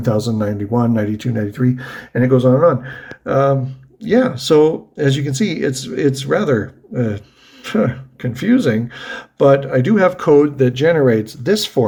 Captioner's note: huffs